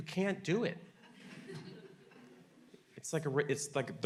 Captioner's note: audience laughing